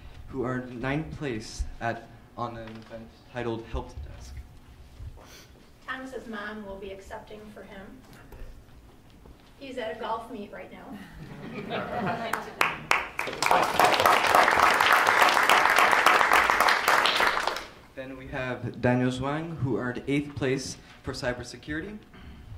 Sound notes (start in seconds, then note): 11.2 all laugh; 12.2 applause